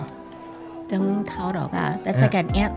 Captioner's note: Taiwanese